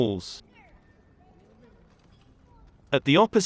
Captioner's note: people chattering